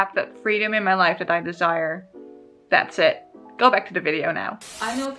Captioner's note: TV static buzzes